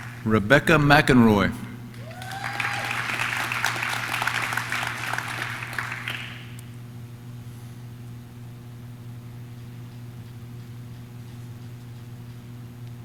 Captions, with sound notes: Rebecca McInroy. (audience cheers) (audience claps)